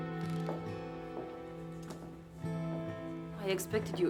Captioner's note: heels clack